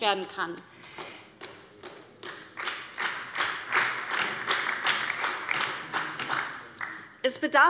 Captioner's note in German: Beifall bei der SPD